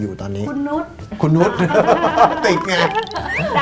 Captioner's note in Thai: หัวเราะ